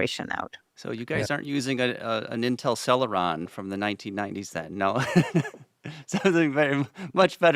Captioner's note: laughs